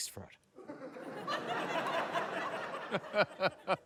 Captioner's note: laughter; chuckles